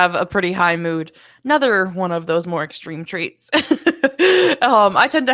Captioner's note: laughs